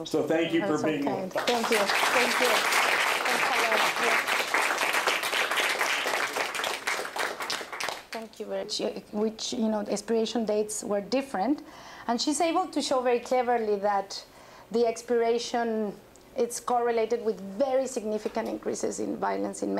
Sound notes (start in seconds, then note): 1.3 applause